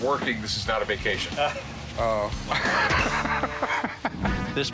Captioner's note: chuckling